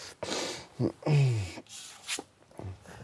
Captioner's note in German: Er stöhnt